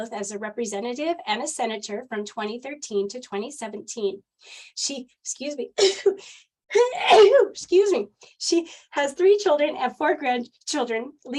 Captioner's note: pardon my sneezing